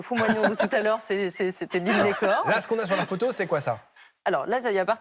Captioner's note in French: rires